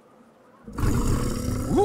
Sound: growling

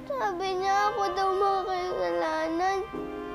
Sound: crying

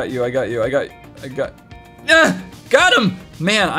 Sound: moans

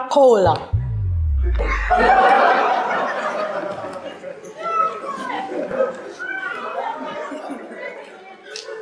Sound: laughter

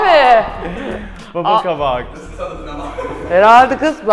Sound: laughter in the back

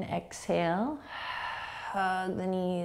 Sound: exhaling

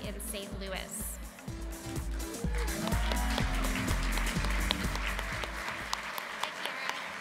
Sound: applause

